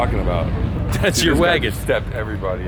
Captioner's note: laughing